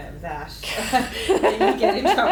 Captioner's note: laughs